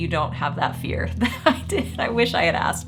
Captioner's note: chuckling